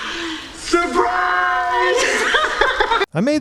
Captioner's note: laughing